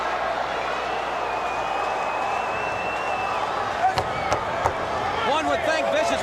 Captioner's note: crowd chatter